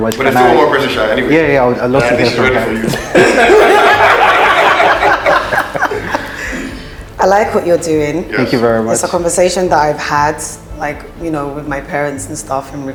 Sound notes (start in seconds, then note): 2.1 judges laughing